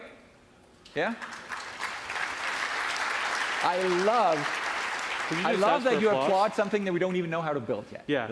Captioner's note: applause